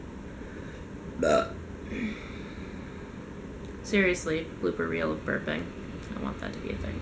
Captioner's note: burp